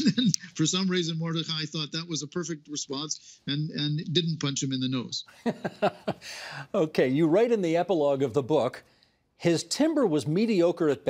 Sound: laughing

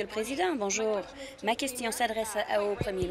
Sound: some Applause

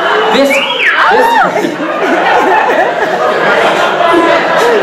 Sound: female audience whistling

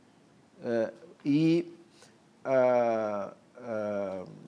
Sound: speaking portuguese

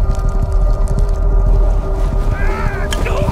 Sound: painful yell

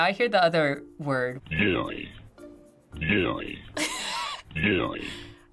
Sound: laughing

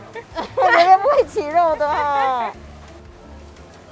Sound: in mandarin

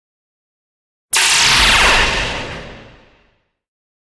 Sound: sound of laser shots

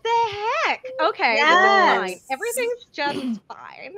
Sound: overlapping exclamations

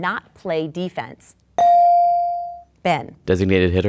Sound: dinging

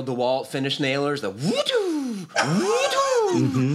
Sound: whizzing sounds; laughs

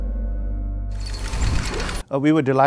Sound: mechanical creaking

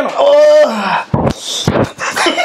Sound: screams in pain; laughs

